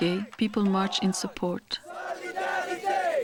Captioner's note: crowd